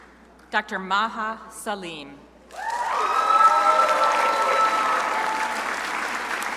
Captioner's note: crowd applauding